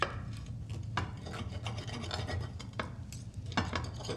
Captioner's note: cutlery scraping